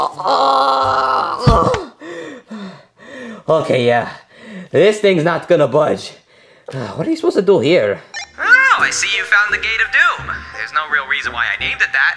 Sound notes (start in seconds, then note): 0.1 grunts intensely; 8.1 device beeps